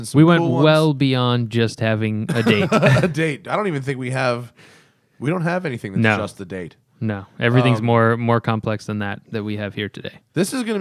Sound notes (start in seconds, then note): 2.3 laughter